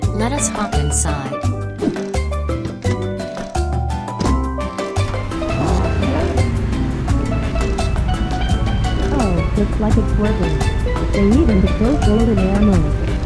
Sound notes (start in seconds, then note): 2.7 car door opens, then closes; 4.8 car engine gets turned on